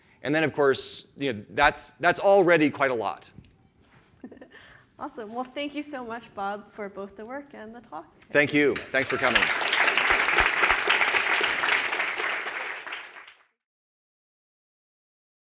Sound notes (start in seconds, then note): 8.8 audience applauds